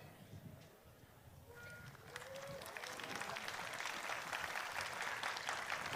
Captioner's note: applause